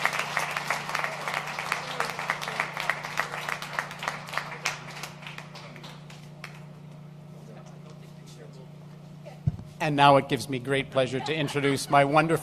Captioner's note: applause